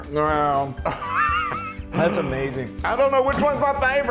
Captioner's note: laugh